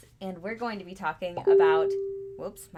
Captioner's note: notification bleeps